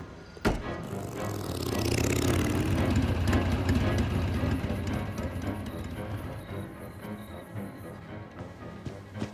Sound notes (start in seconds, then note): 0.8 boot thuds; 1.7 motorbike rumbles